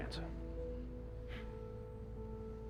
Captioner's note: scoffs